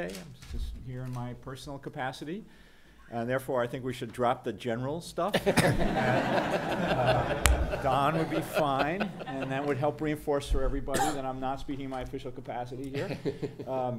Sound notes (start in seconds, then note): 5.3 background laughter